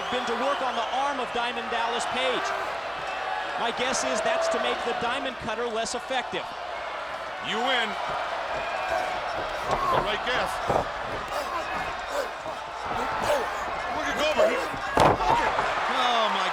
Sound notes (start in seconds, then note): 10.9 crowd cheering; 10.9 fighting sounds